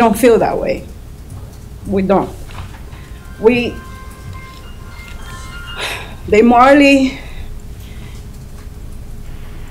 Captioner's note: phone ringing